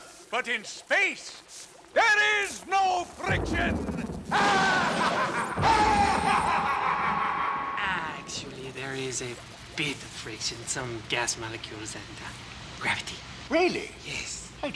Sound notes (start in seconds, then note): 4.3 laughs maniacally